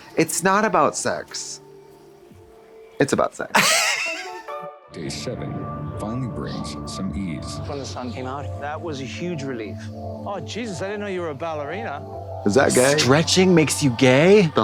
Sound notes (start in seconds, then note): 3.5 laughs; 4.1 playful music